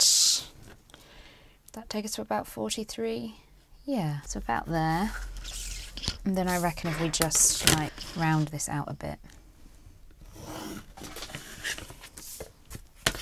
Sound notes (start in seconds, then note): 10.5 pencil scratching